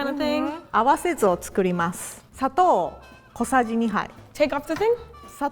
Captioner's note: speaking in Japanese